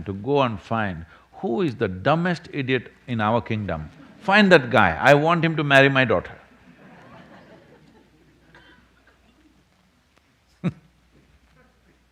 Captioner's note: laughs